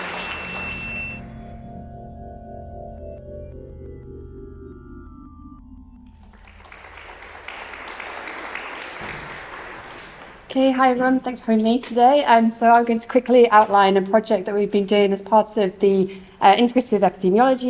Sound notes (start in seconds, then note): 0.0 drone-like music; 6.1 applause